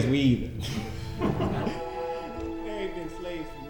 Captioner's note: laughter